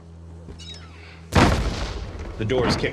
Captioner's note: door slams